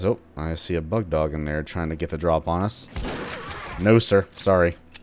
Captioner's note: boom